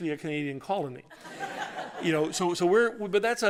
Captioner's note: laughter